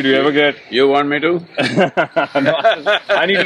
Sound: both laugh

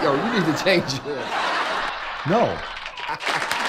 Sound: audience laughs

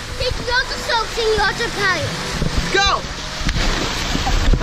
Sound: baby talk

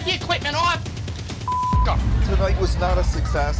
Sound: beeps

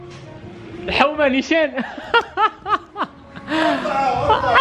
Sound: laughter

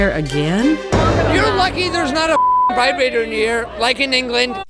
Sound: beep

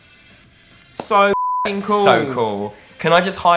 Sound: beep

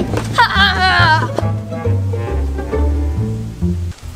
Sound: Evil Assistant laughs

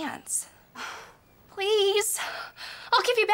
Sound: sighs

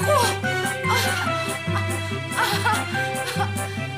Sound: gasping

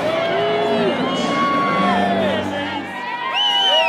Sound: cheering

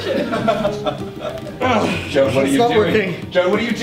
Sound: the others laugh; makes straining noise

